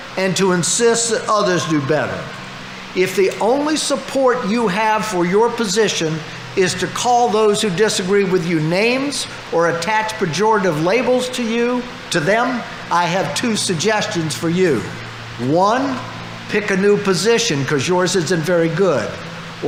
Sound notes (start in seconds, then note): none